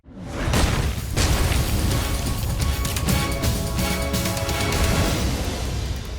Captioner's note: logo slams; dramatic music